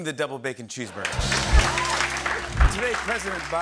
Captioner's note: cheers and applause